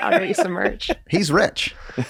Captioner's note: Charlie laughs